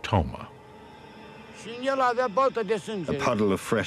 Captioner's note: speaking Romanian